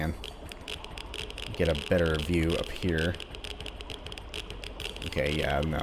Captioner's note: geiger Counter clicking